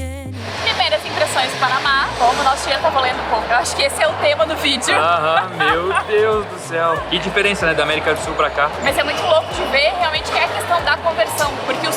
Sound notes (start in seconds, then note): 3.2 laughs